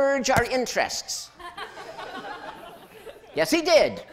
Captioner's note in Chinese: 笑聲